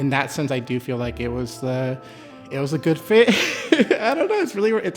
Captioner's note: laughs